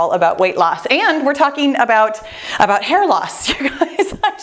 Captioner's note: laughs